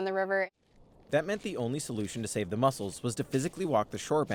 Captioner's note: voice-over